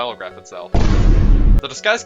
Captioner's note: thudboomboomthudthudboomboomyboomboomthud